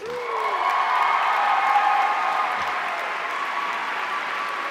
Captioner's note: audience cheering